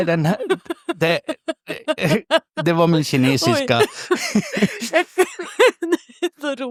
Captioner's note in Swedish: skratt; skratt